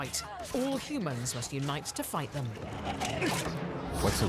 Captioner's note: growls